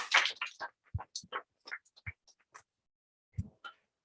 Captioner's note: applause